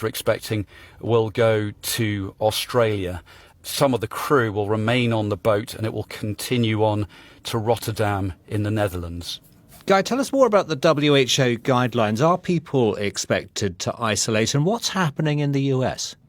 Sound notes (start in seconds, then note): none